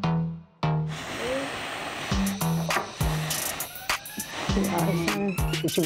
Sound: blowing into her food

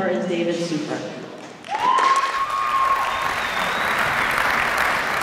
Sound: applause

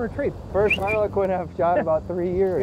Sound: whistles

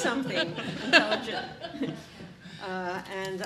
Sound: all laughing

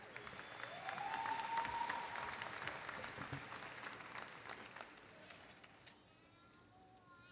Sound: applause

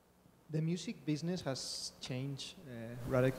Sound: voiceover

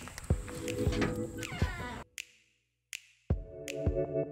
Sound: door creaking; soft music

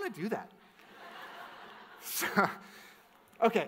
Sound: audience laughs

